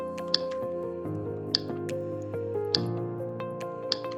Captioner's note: typing